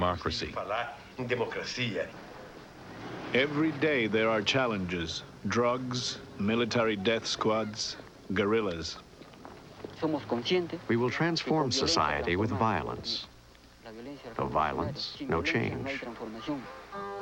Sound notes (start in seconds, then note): 8.2 man speaking Spanish; 17.0 singing in Portuguese